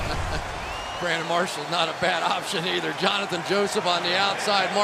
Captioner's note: laughs